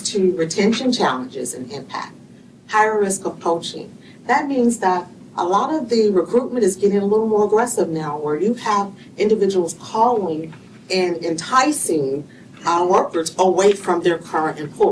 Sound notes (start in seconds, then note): none